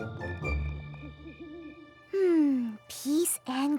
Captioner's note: owl hoots